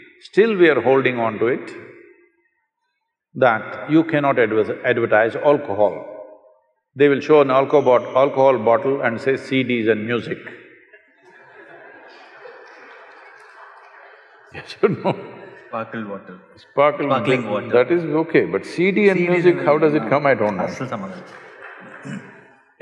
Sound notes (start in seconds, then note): 11.2 laughter; 14.9 laughs; 21.2 applause